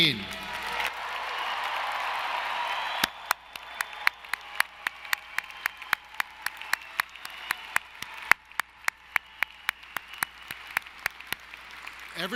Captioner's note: applause